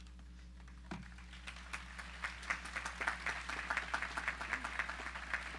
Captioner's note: audience applauding